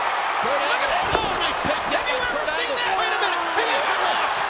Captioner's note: overlapping chatter